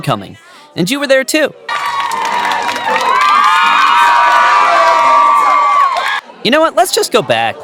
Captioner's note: fans cheering